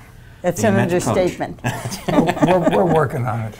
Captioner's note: chuckling